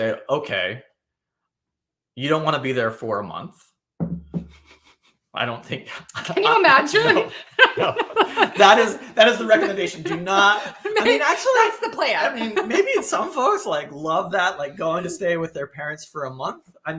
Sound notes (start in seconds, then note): 7.7 laughing